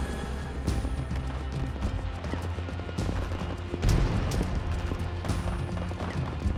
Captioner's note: bombs exploding; guns firing